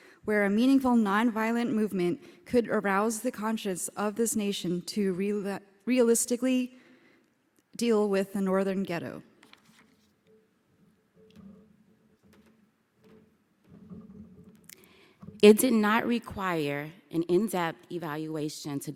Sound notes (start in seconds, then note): none